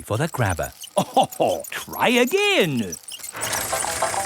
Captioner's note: chuckles